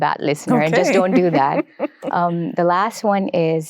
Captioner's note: laughs